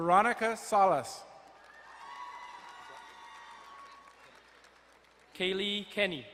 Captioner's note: crowd cheering and applauding